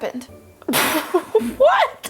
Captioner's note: laughing